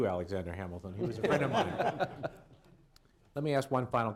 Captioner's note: laughter